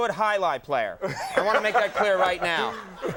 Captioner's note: Will laughing